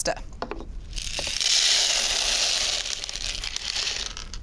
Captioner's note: pasta crunching